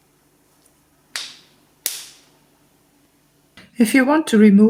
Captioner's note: fastener snaps